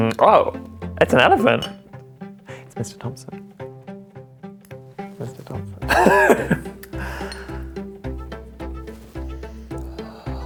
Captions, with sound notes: Oh! It's an elephant! It's Mr. Thompson. Mr Thompson. [Laughs]